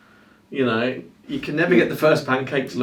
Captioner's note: both laugh